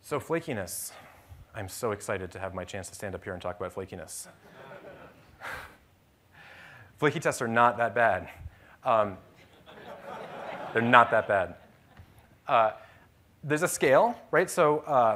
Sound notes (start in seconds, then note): 5.5 laughter; 12.5 laughter